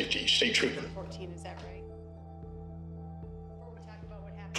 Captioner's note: indistinct chatter